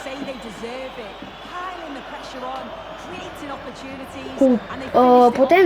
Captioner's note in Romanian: Aplauze